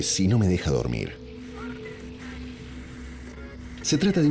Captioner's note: radio station static